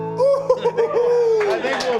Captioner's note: applause